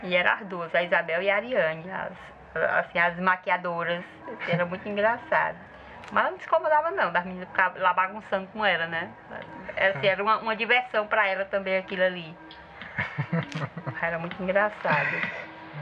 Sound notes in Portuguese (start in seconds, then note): 12.8 risadas